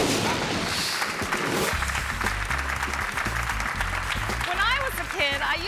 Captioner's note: audience clapping; upbeat music